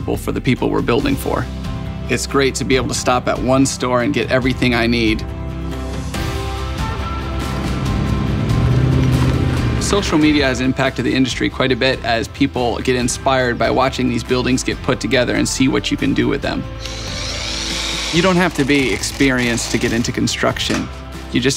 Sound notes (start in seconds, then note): 7.8 truck engine rumbling; 16.7 drill buzzing